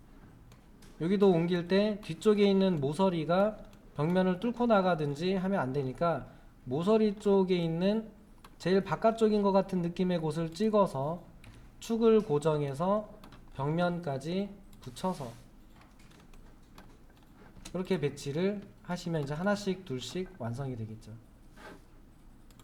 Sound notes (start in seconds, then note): 16.1 silence